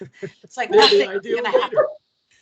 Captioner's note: laughing